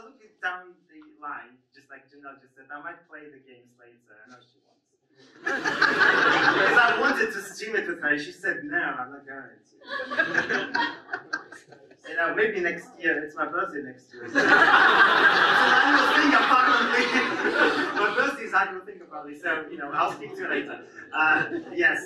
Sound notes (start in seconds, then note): 5.3 audience laughs; 9.8 audience laughs; 14.2 audience laughs